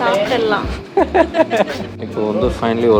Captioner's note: laughing